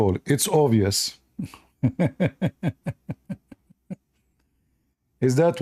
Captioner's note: Ketawa